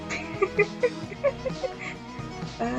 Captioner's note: giggle; more giggle